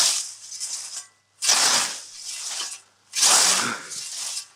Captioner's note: whoosh